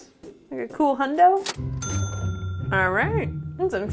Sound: cash register bell ringing

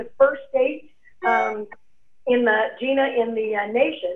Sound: beeping sound

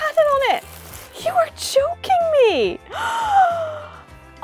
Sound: gasp

